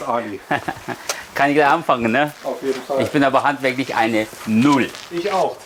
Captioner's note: laughs